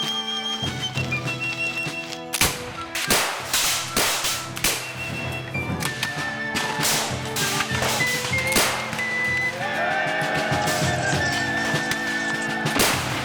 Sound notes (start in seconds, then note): 2.3 guns fire